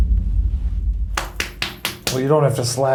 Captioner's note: skin smacks